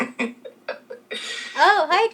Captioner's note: laughing